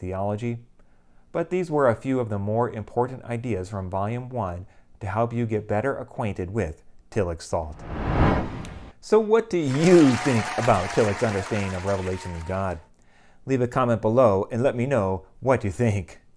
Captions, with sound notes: theology, but these were a few of the more important ideas from Volume I to help you get better acquainted with Tillich's thought. So, what do you think [applause] about Tillich's understanding of revelation and God? Leave a comment below and let me know what you think.